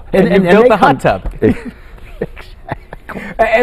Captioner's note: laughter